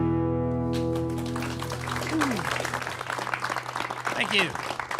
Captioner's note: applause